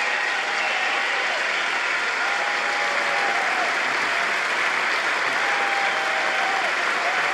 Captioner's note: applause